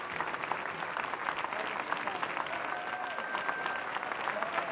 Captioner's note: applause